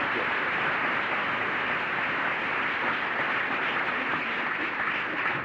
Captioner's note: applause